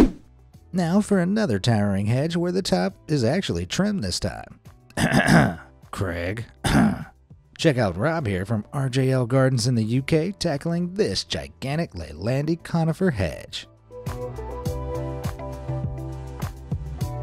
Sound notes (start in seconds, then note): 0.2 transition music; 4.9 clears throat; 13.9 soft upbeat music